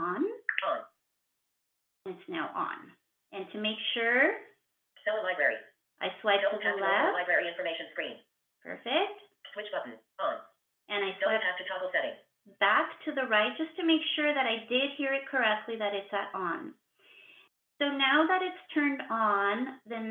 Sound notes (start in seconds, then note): 0.4 VoiceOver voice; 7.4 VoiceOver voice